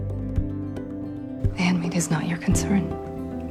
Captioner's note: voiceover